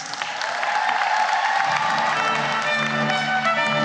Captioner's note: cheering and applause